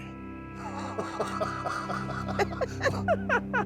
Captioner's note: laughter